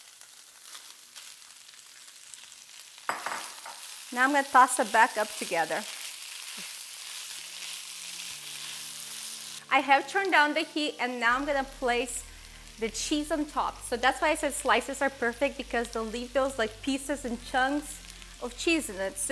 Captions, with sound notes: Now I'm gonna toss it back up together. (sizzling) I have turned down the heat and now I'm gonna place the cheese on top so that's why I said slices are perfect because they will leave those pieces and chunks of cheese in it.